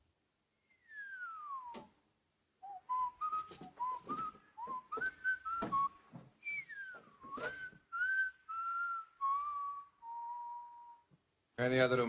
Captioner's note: Harry whistles